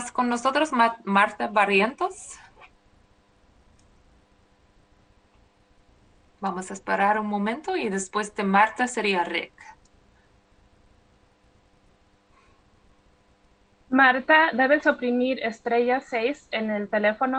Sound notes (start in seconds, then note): 5.3 speaking spanish